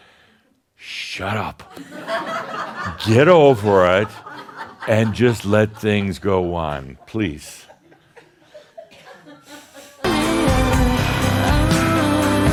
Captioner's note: laughter